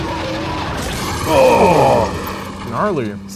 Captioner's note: car engine revving; both groan